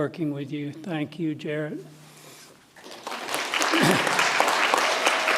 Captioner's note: audience applauds